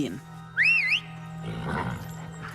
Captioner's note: whistles